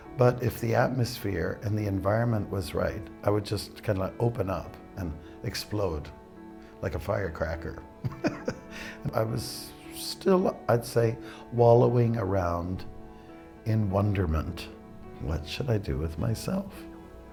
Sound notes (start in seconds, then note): 8.0 laughs